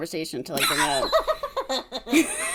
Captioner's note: laughs